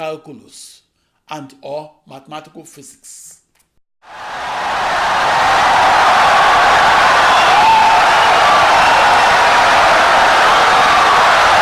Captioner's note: wild applause and cheering for 17 seconds